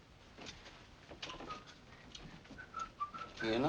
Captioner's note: whistling